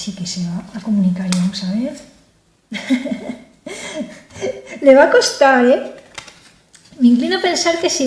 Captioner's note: laughs